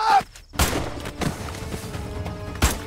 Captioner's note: Gunshot; Gunshot